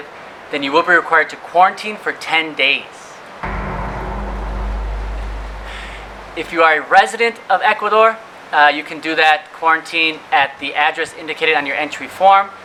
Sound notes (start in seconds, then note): 3.4 sound effect